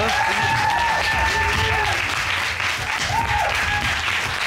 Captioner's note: audience cheers, applauds